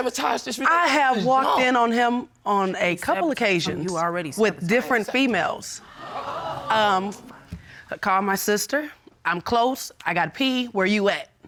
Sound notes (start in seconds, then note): 5.1 audience gasps